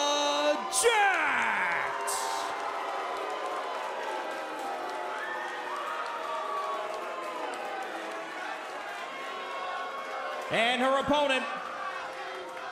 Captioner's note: crowd cheering